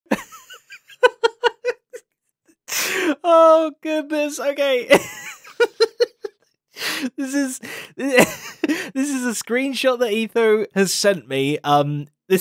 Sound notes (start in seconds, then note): 0.1 laughs; 5.0 laughs; 8.1 laughs